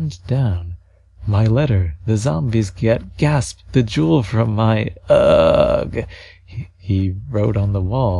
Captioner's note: gasp